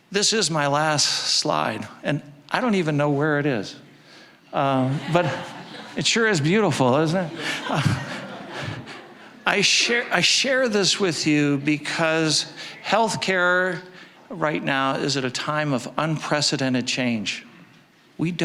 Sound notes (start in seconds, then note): 4.7 audience laughing; 7.5 audience laughing